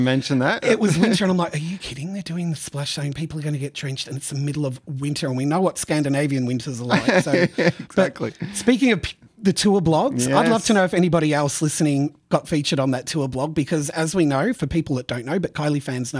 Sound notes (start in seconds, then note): 6.9 laughs